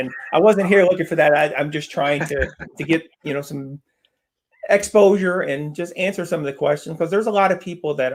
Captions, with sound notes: And I wasn't here looking for that. I'm just trying to get some - (laughs) exposure and just answer some of the questions. 'Cause there's a lot of people